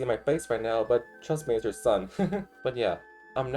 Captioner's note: awkward laugh